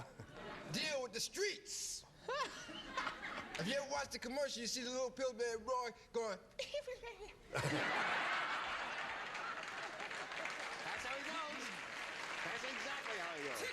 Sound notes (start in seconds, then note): 7.2 giggles; 7.4 laughter